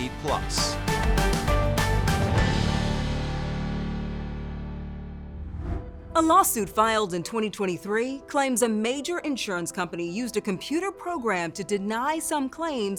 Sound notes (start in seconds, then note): 0.0 upbeat music; 5.3 air whooshing